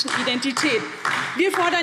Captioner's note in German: Beifall DIE LINKE